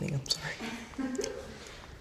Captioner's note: woman laughing